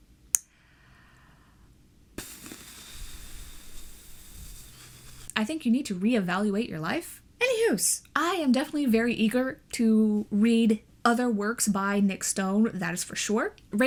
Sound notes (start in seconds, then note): 0.4 deep breath; 2.2 blows it out